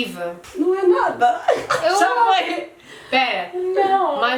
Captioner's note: laughs